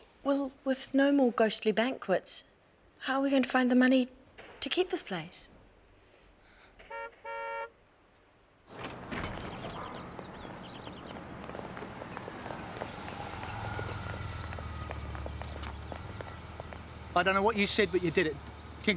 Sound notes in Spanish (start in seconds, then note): 6.8 toque de bocina; 8.7 la puerta se abre